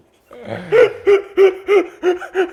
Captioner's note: giggle